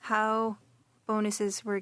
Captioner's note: speaking French